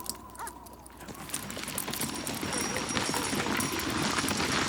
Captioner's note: hooves clop